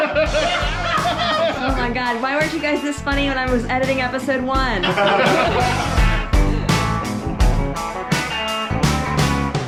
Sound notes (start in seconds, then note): 0.0 laughing; 4.8 laughing